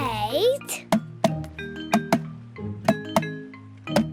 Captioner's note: tapping